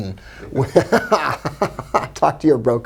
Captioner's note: laughs